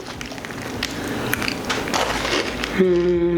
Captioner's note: crunching; noise of satisfaction